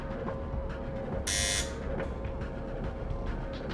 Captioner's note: buzz